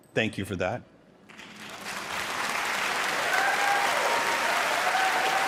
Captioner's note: applause